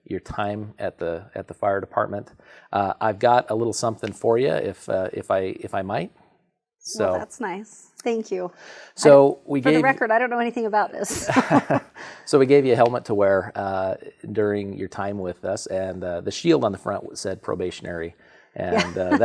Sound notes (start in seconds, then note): 11.1 chuckling; 18.7 chuckling